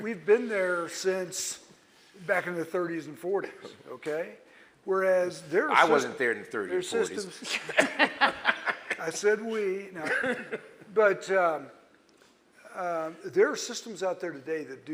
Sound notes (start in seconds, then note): 7.3 laughs